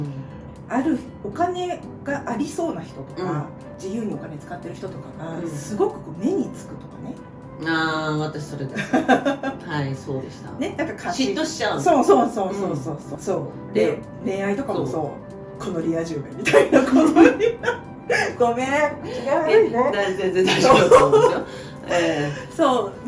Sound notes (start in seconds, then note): 20.4 laughs